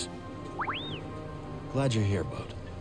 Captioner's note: bd-1 chirps